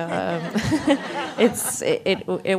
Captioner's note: laughs